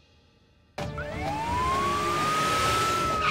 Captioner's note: Siren wailing